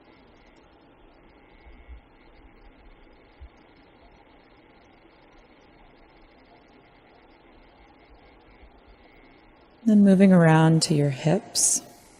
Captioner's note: silence